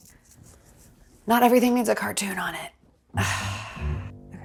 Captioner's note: sighs; light music